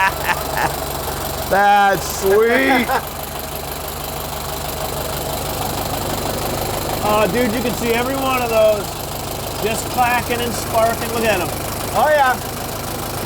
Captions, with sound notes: (man laughs) - That's sweet. (engine idles) Ah, dude, you can see every one of those just clacking and sparking. Look at 'em. - Oh yeah.